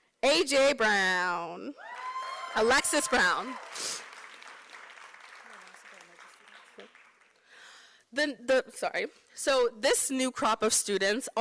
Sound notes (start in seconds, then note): 4.3 applause